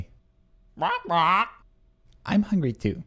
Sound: squawking

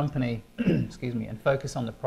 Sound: clearing throat

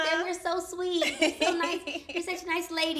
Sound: laughs

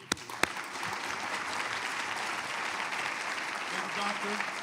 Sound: applause

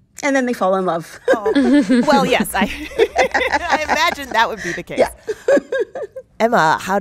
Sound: laughter

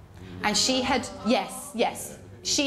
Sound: groan from audience

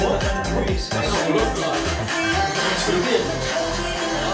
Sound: chaotic reactions all around

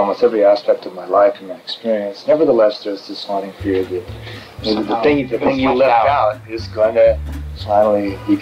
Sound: laughs

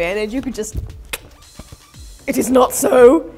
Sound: click sound

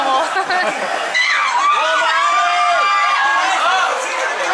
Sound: laughter; loud screams

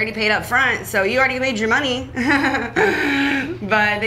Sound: laughs

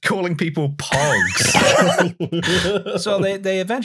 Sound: laughter

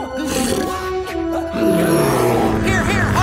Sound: grunting

